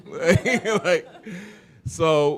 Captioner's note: chuckle